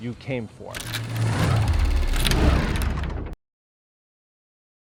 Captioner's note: shutter closing